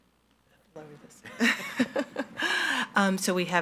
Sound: laughs

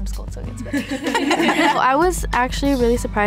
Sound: all laughing

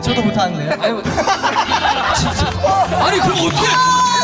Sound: laughs

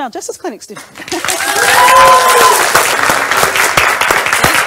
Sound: crowd applause

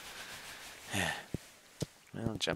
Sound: sigh

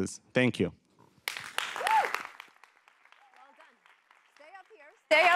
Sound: applause

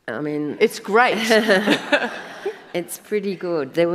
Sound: audience laughs

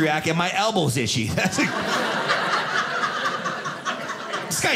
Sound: audience laughing

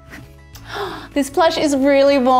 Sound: host gasping

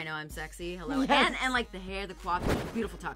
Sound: laughs

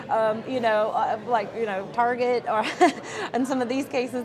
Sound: laughs

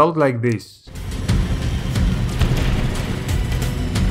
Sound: game sounds resume

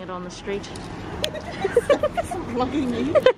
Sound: giggle

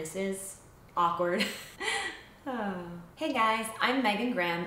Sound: giggles

